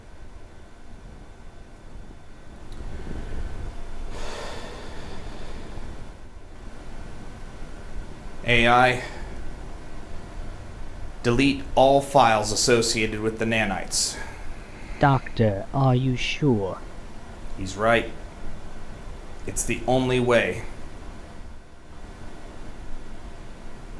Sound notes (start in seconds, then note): 4.1 sigh